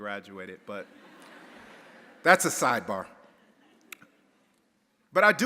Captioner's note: audience laughing